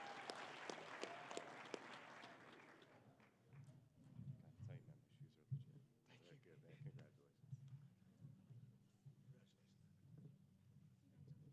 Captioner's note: applause